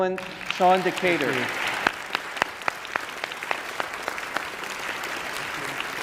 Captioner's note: audience applauding